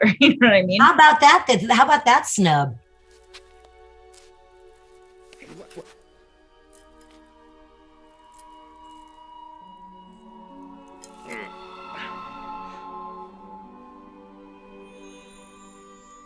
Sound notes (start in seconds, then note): 8.6 high-pitched noise; 11.2 grunts; 13.1 breathes heavily